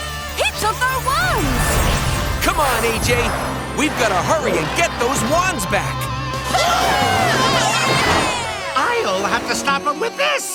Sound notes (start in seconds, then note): 6.4 cheering